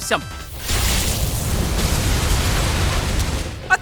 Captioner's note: explosion rocks cave, starts a cave in